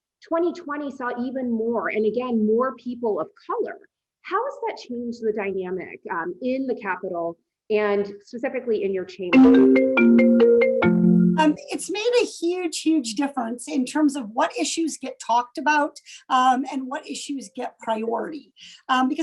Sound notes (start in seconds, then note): 9.4 phone ringing